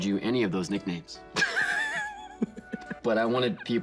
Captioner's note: laughing